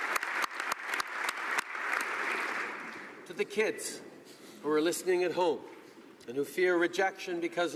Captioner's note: applause